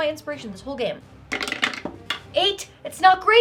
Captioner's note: dice rattling